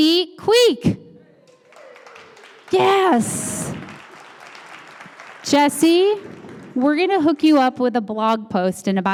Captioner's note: applause